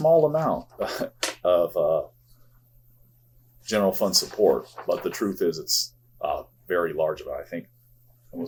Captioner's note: chuckles